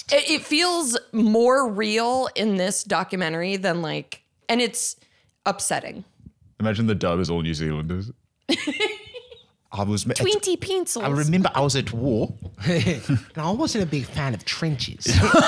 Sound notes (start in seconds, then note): 8.5 laughing